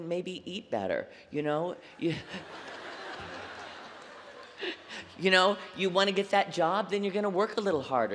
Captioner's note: laughter